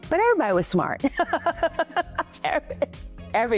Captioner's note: laughing